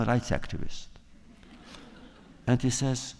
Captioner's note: laughter